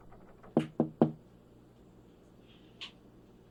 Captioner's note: Kat breathing heavily; door knocks